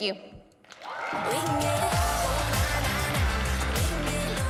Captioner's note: audience applauds